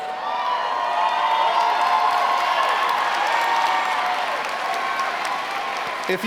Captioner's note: applause